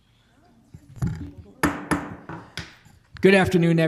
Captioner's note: gavel pounds